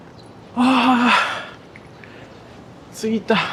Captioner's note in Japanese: ため息